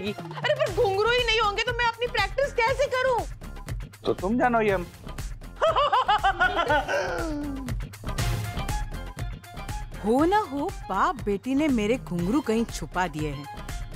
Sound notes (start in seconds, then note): 5.6 laughing